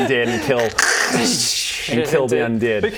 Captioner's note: krrrshchchkh